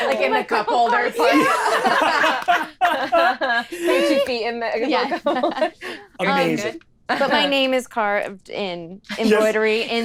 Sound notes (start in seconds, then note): 1.7 overlapping chatter and laughter